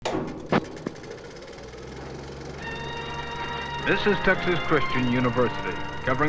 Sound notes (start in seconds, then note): 0.3 film camera rolling; 2.5 bright music